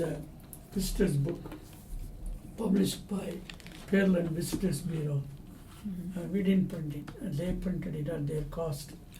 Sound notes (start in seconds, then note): 3.3 items shuffling